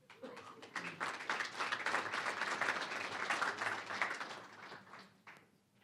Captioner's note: applause